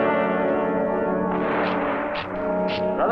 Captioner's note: guns blasting; general speaking in Russian